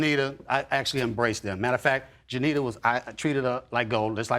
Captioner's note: none